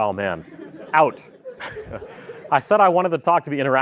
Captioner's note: laughter